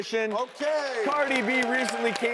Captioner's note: applause